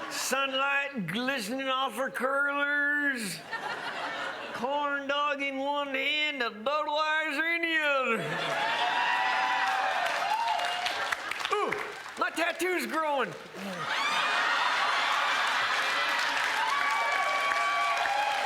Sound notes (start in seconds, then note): 8.1 crowd laughs and cheers; 13.3 crowd laughs and applauds